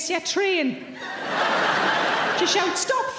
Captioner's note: audience laughing